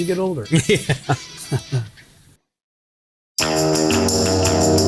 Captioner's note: laughing; upbeat music